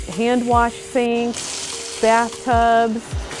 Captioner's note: water splashing